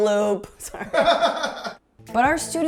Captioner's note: background laughter